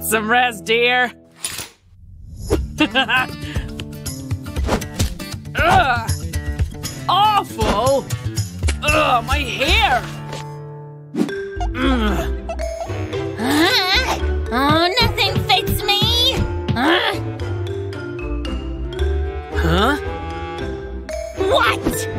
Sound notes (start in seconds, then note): 11.7 making angry sounds